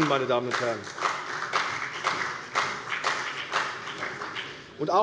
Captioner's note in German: Beifall bei der CDU und dem BÜNDNIS 90/DIE GRÜNEN